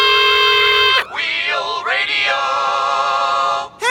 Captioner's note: screaming